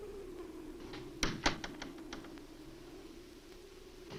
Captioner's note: door closes